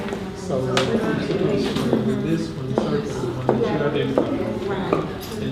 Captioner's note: participants talking at once